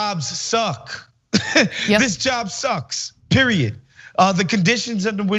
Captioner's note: laugh